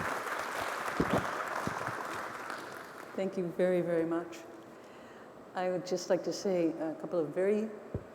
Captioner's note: applause